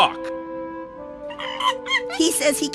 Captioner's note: monkey noises